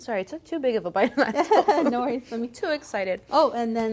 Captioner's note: laughs